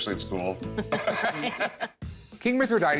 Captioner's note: both laugh